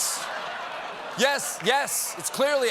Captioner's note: laughter